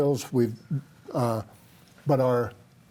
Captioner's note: chuckles